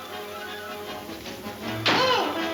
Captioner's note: door slams